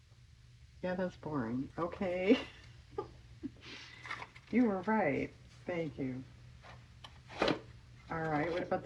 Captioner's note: laughs